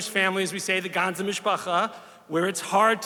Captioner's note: speaks Hebrew